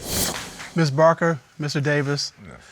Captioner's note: hammer hit